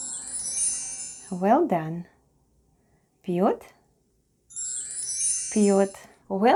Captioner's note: chime sound